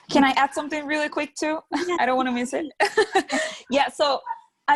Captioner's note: laughs